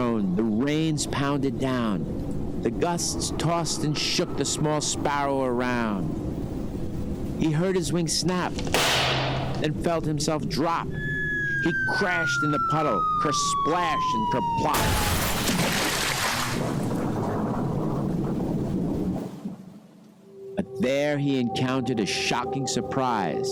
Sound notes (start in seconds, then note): 14.8 sparrow crashing